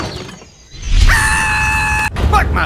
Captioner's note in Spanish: grito adolescente